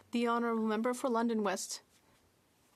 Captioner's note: speaking French